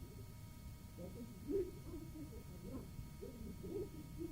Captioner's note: chattering